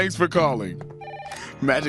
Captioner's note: phone rings